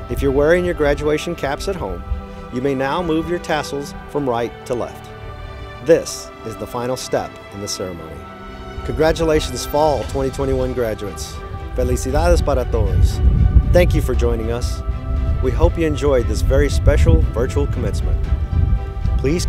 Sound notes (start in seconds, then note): 11.9 speaking in foreign language